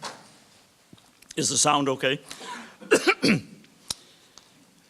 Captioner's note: coughs